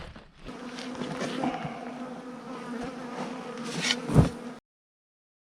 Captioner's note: bees buzzing